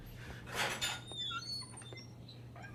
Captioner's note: door opens